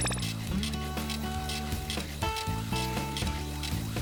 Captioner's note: printing